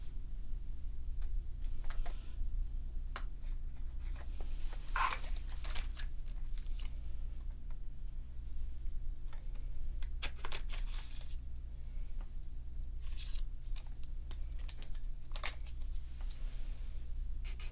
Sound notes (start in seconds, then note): 1.1 swatching sounds